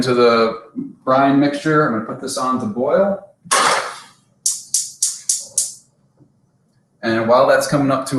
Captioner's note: oven clicking